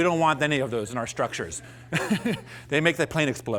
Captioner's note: laughs